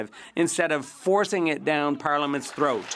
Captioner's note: speaking French